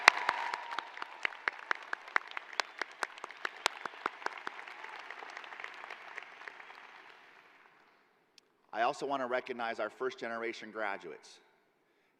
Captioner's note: cheers and applause